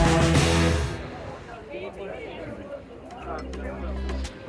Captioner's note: rock music; background chatter